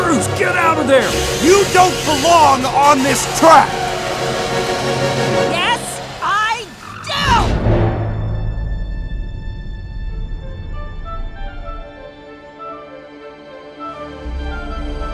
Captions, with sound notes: - Cruz get out of there. (scraping sound) - You don't belong on this track. - Yes I do. (intense music)